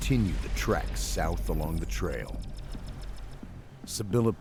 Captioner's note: voiceover